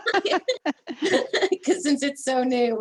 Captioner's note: laughing together